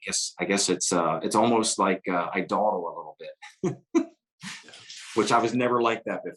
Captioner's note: laughs